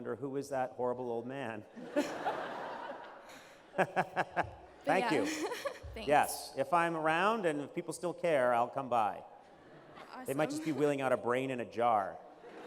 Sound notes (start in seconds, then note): 1.7 laughter